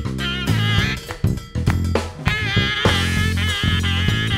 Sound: hands clapping

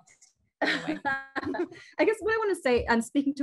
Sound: laughs

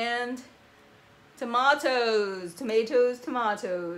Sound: english Accent

